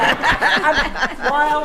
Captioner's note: attendees laughing